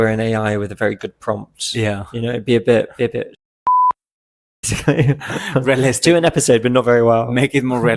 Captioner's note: beep